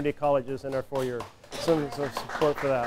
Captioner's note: applause